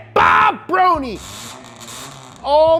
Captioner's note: revving